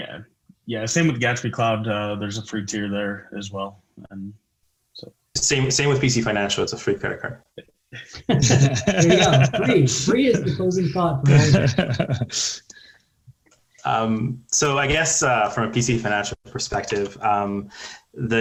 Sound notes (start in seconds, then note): 8.7 participants laughing